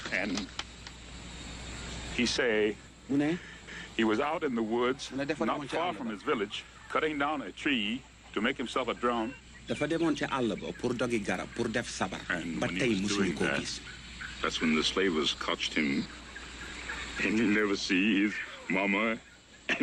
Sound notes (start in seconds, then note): 1.8 foreign language; 9.7 foreign language